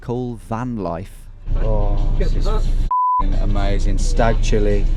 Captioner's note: beep